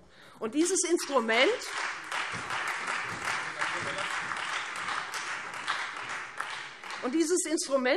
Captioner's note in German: Beifall Freie Demokraten und vereinzelt SPD